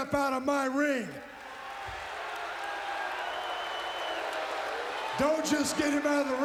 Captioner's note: audience applauds and cheers